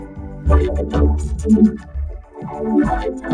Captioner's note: stammers phonetic sounds